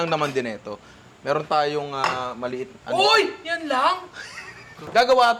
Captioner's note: laughs